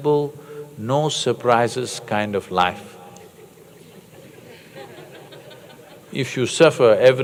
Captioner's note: laughter